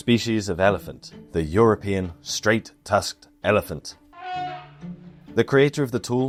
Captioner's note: cheeky elephant trumpets